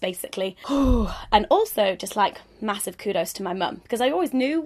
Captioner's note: exhales